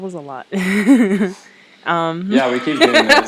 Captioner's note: laughs